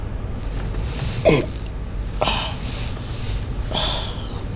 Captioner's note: Michael grunts